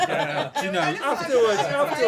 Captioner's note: laughter